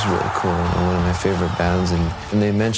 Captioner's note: cheers